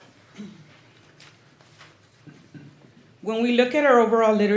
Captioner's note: clears throat